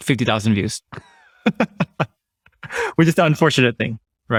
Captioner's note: laughs